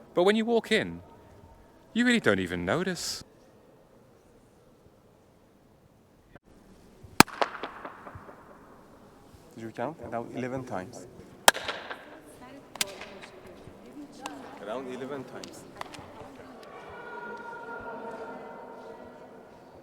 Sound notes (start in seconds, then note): 7.2 clap; 11.4 clap